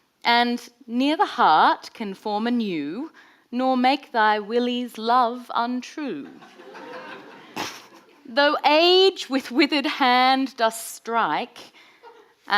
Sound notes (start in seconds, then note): 6.3 audience laughing